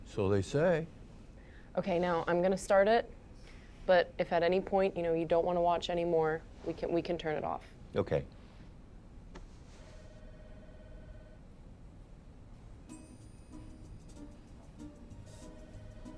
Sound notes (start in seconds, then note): 9.9 distant phone ringing; 12.9 playful music